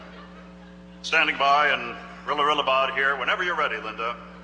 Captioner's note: voiceover